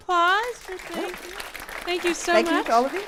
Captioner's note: applause